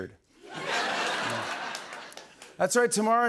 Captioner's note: laughter